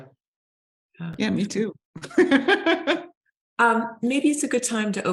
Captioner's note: laughing